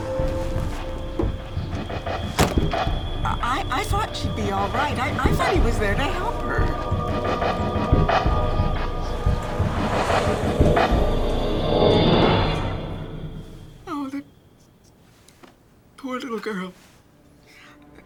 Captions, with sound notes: (door thudding) - I thought she'd be all right. I thought he was there to help her. (dramatic, eerie music) Oh that poor, little girl,